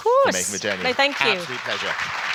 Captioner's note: applause